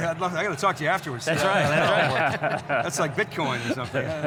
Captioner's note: panelists laughing